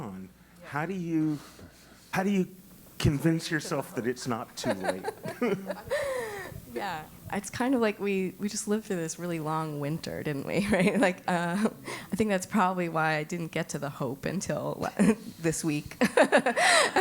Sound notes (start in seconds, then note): 3.4 laugh; 16.0 laugh